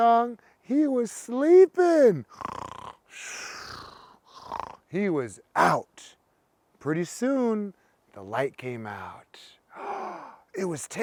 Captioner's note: imitates snoring; gasp